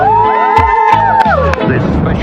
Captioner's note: cheers